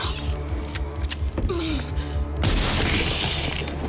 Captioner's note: shotgun loading; gunshot